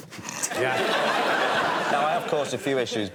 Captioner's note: laughter